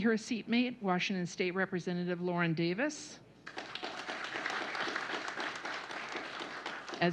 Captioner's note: applause